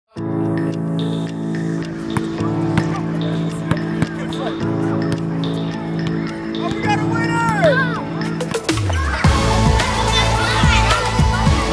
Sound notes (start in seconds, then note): 0.0 ball thumping; 0.0 upbeat music; 7.5 children chattering